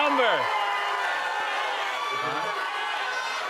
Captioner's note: audience shouting; shouting continues